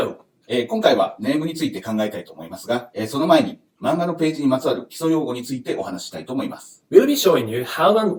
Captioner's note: speaking Japanese